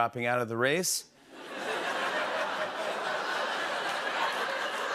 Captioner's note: laughter